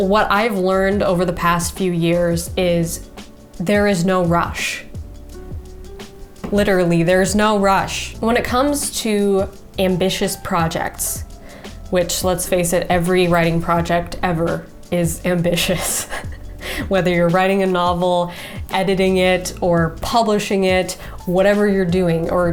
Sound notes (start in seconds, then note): 15.6 chuckles